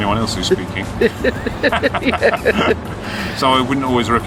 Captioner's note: laughing